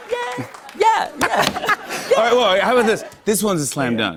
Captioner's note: laughter